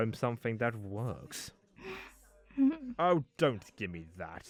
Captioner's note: etta whimpers